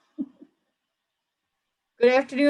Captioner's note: chuckles